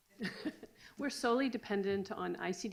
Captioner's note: laughs